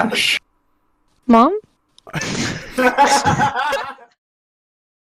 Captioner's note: laughter